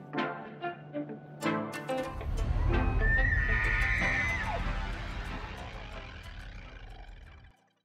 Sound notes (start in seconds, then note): 0.0 light music; 2.9 elk bugling